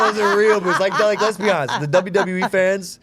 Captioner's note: group laughing